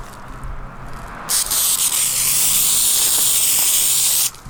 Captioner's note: spraying